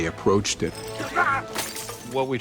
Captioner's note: screams